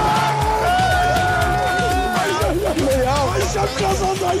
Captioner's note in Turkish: bağırıyorlar